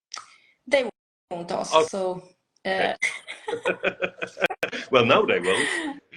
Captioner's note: both laugh